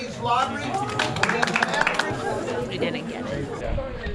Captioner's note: crowd clapping